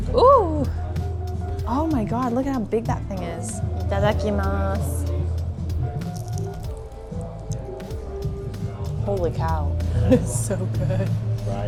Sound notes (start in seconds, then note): 3.7 speaks in foreign language; 6.0 food crunching